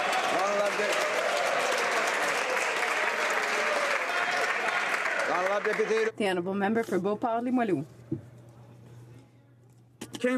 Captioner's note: some Applause